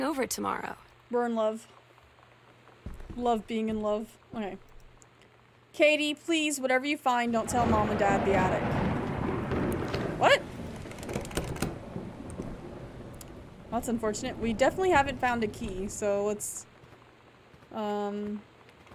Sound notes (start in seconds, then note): 10.6 doorknob Rattles